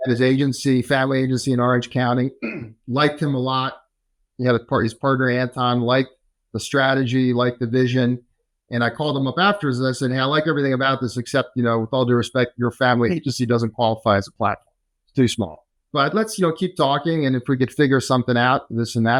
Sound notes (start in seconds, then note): 2.4 clears throat